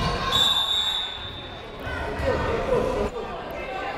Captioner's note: whistle